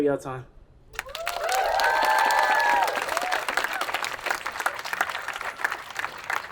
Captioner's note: attendees applauding and cheering